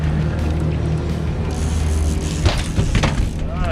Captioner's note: boat engine running; reel cranking